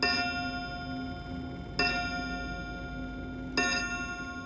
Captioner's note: clock chiming